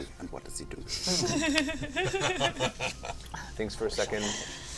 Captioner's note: laughter